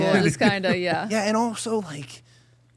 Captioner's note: participant laughing